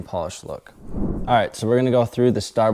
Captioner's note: graphics whooshing